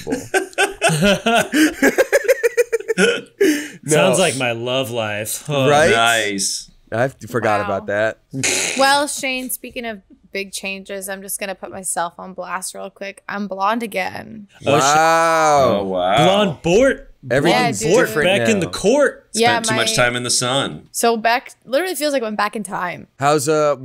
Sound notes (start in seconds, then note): 0.0 laughs; 8.7 grunts